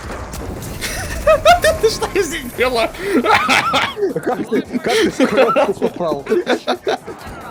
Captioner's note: laugh